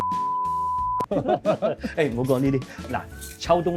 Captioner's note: laughs